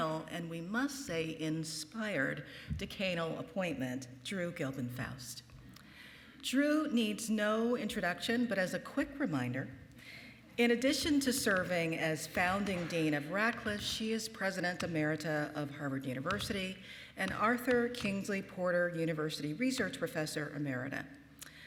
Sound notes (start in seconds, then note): none